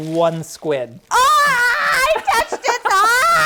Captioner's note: screaming